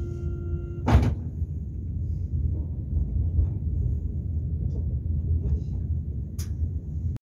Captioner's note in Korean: 출입문 열림